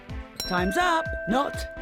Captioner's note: bell dings